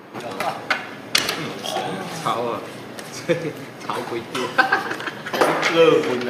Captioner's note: gang chit chatting